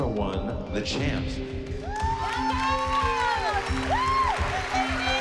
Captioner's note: whooping, applause